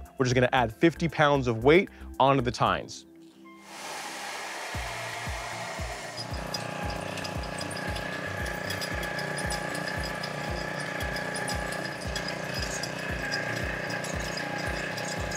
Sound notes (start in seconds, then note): 4.7 energetic upbeat music; 7.4 engine whirring